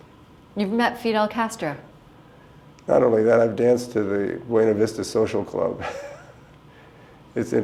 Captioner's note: chuckle